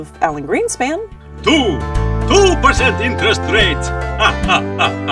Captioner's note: laughing